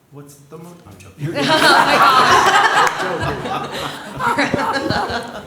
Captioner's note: laughter